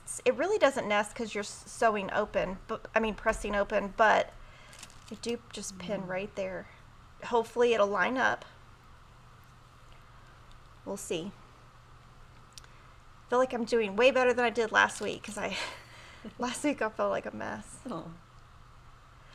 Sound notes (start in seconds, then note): 15.9 chuckles